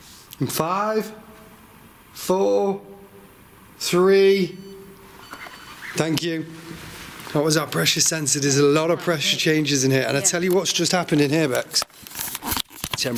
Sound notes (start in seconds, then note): 4.4 device beeping